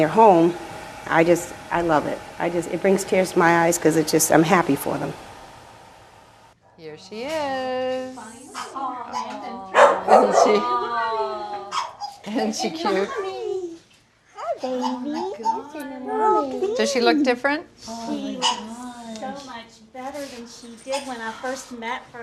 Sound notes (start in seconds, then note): 14.1 overlapping chatter; 14.8 dogs barking